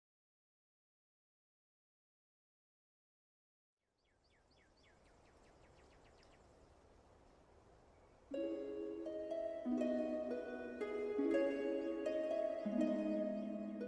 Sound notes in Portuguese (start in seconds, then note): 3.9 Som de pássaros ao longe